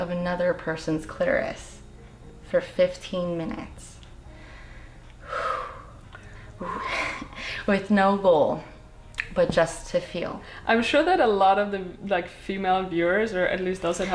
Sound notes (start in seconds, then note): 4.3 exhales